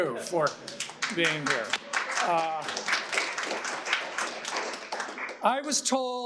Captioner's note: audience applauding